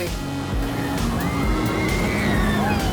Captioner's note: rollercoaster rattling, kids squealing